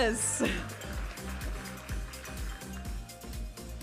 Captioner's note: audience applauding and cheering; vibrant music